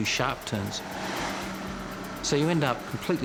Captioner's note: airboard whirring